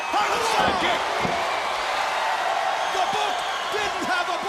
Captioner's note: crowd cheering